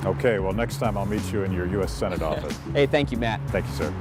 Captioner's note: laughing